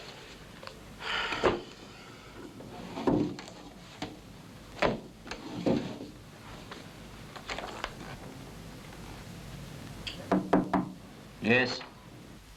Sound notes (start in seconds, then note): 1.0 Mac sighs